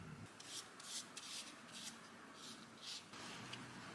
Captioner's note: brush strokes